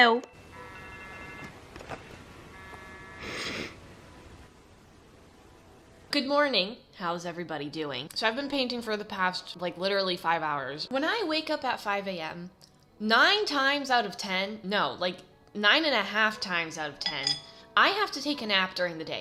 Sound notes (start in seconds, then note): 0.3 digital alarm plays; 3.1 intense nose inhale